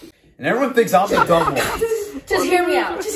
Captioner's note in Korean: 웃음